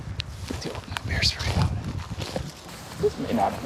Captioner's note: none